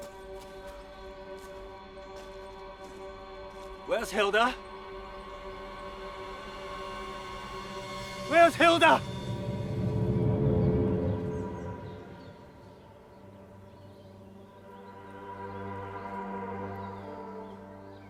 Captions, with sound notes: - Where's Hilda? (dramatic music) Where's Hilda? (dramatic music) (birds chirping) (dramatic music)